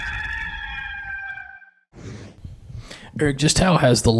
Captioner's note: rooster crowing